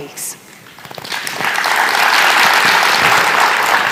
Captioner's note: applause